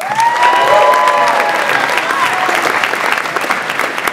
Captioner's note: audience applauds